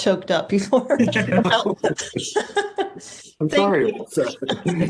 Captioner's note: everyone laughs